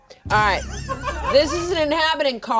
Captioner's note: everyone laughing